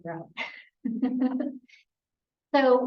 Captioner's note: laughing